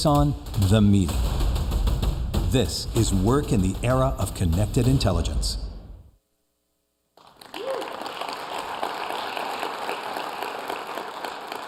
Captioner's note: applause